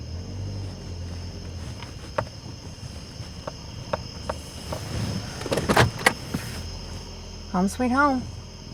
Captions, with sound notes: (crickets chirping) (car clicks) Home sweet home.